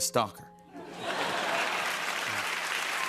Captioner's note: laughter